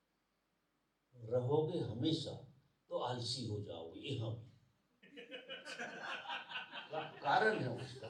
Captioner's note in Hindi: हंसी